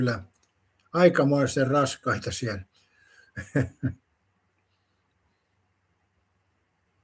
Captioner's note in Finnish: naurua